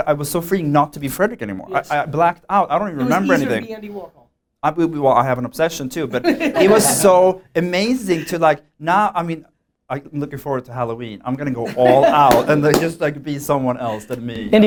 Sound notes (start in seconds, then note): 6.1 laughter